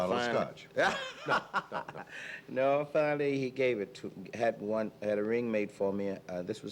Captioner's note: laughing together